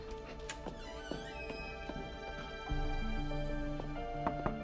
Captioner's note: door creaks